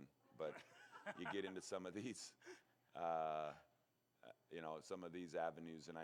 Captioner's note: laughter